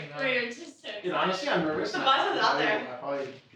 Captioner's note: indistinct chatter